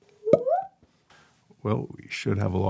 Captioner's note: mouth popping